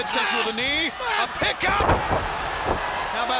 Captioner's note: body slamming; crowd cheering